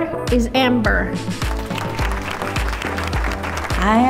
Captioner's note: applause